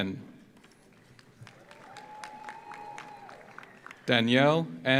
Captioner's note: audience applauds; audience cheers